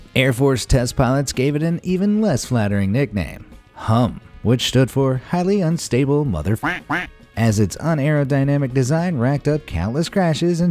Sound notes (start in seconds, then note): 6.6 honks